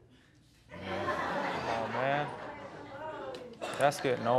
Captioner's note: audience laughing